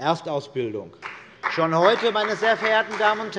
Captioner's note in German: Beifall bei der CDU und dem BÜNDNIS 90/DIE GRÜNEN